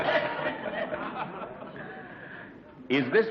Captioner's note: laughs